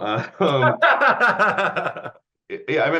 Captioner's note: laughing